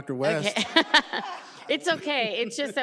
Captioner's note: laughs